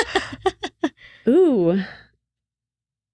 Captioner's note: laughing